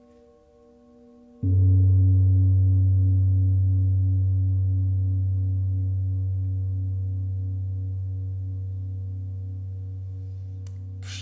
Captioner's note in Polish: gong